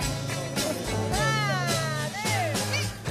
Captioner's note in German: Motivierender Ruf